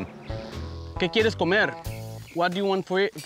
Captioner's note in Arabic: يتحدث الأسبانية